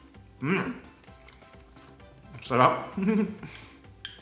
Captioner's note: giggles